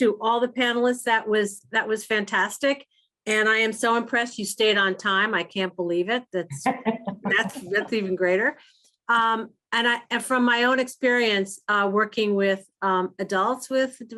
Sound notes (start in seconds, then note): 6.6 laughter